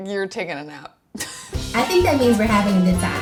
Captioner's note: laughs